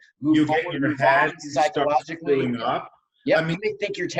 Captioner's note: murmurs